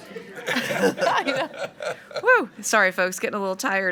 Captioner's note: people laughing